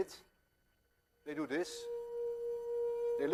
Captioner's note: plays high tone